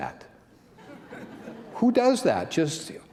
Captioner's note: laughter